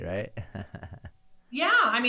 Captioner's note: laughing